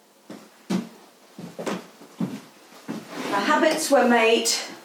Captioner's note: footsteps tapping